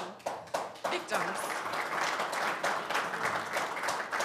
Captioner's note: applause